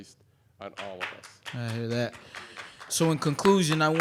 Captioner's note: applause